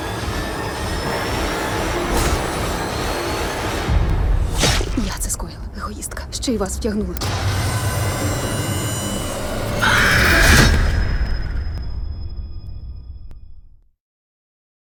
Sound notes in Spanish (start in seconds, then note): 7.1 música siniestra continúa; 9.5 grito